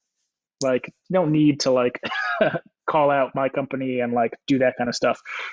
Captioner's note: laughs